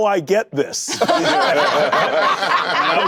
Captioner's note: laughter